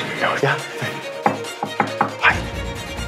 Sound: knocking

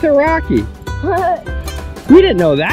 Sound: laughs

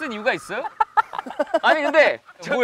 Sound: laughing

